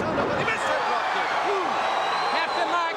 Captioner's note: audience cheers